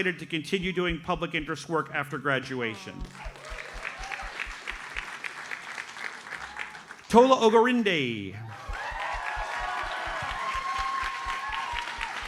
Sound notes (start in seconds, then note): 3.0 audience applauds; 8.4 audience cheers and applauds